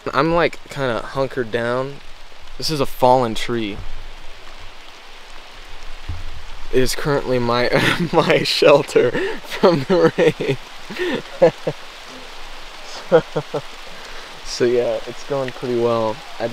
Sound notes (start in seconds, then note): 10.5 rainfall pelting; 10.8 laughing